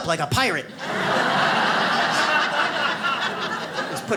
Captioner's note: audience laughs